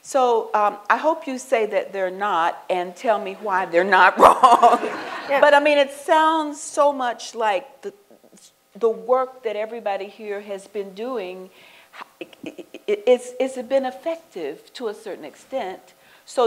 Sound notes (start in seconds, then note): 4.2 laughter